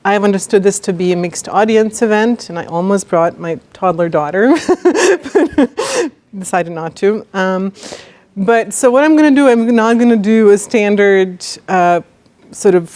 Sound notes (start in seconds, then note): 4.5 laughs